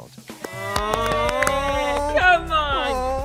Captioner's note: all cheering